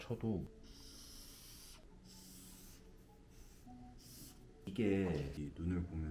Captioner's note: sigh, sigh~